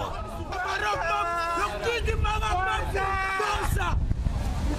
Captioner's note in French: cris de joie